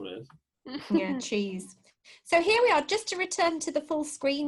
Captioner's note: laughter